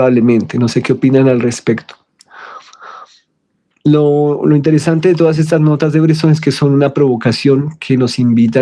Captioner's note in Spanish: suspiro